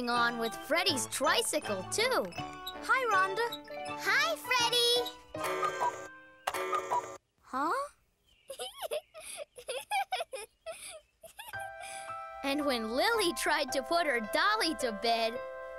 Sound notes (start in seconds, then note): 4.9 cuckoo, cuckoo; 8.5 laughing